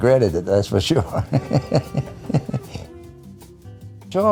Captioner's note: laughs